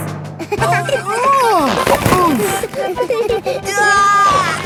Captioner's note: giggling; grunting; giggling